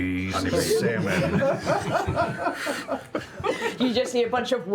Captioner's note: laughter